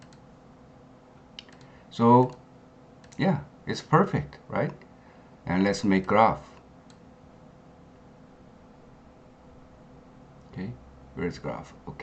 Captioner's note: click